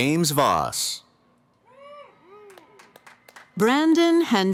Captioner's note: cheering